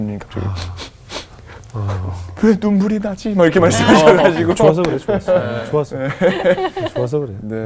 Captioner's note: laughing